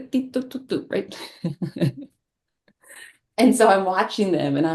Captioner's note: laughs